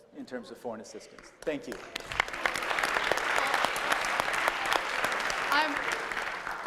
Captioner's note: applause